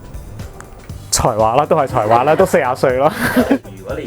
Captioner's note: struggling